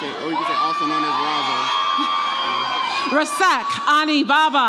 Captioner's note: audience applauds and cheers